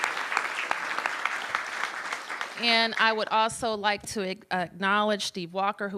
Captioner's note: applause